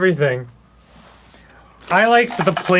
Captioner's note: silence